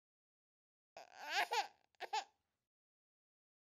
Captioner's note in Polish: płacz dziecka